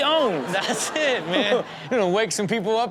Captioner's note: audience laughs